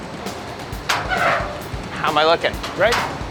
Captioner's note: metal scraping